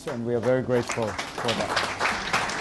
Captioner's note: applause